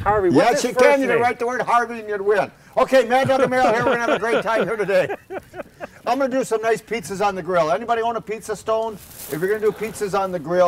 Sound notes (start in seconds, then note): 0.0 laughs; 5.3 laughter